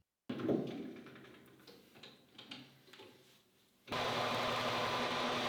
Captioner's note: lathe rattling; lathe whirring